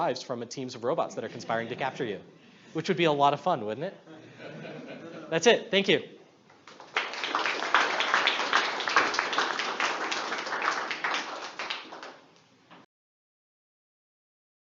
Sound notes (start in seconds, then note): 4.2 audience laughs; 6.6 audience claps